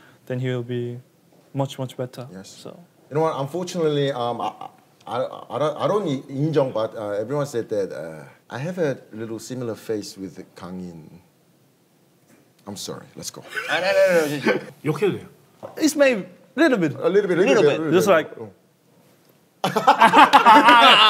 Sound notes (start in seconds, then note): 4.4 stuttering